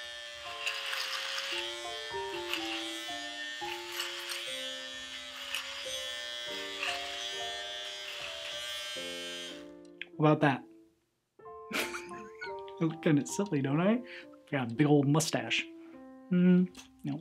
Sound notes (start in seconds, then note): 11.7 laughs